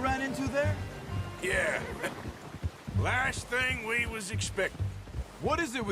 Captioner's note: laughs